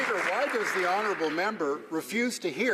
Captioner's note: some Applause